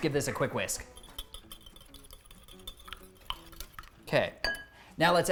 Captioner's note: whisk whooshing